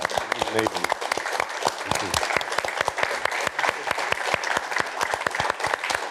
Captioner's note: cheers and applause